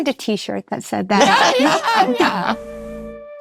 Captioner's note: people laughing; relaxed funk music